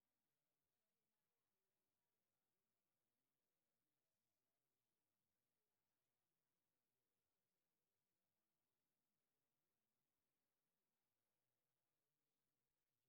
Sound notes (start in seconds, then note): none